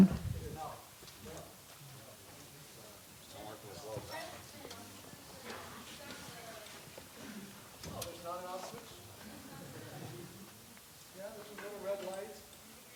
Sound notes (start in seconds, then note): 3.3 background chatter; 9.2 laughter